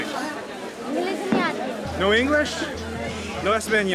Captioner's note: in foreign language